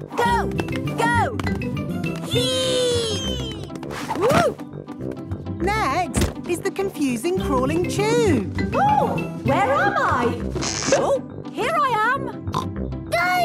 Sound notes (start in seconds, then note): 4.4 thumps; 10.6 pops